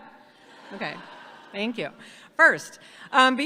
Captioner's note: audience laughs